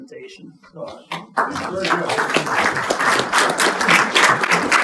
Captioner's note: audience applauding